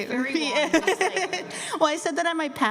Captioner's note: laughter